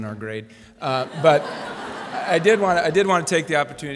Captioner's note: laughter